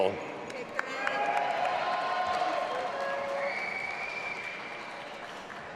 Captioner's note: audience applauding and cheering